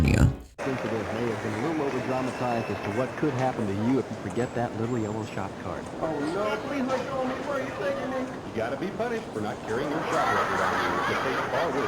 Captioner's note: TV audio plays